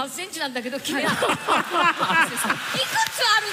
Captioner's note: laughter